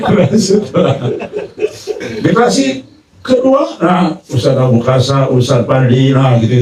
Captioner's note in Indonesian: tertawa